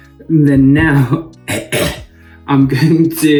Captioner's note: coughs